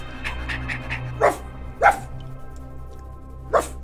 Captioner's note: dramatic music; barking continues